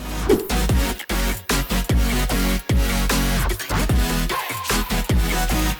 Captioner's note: bright electronic music; image whooshes